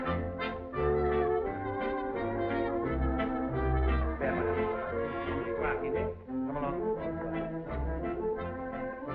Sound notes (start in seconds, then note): 3.7 chattering